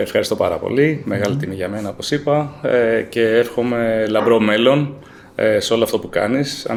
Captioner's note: laughs